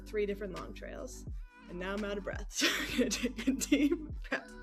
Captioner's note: laughing